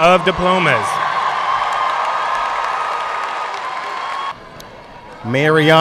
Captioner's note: audience cheering and applauding